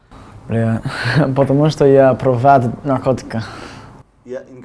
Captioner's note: says in Russin